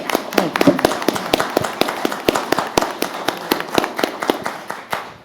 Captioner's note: applause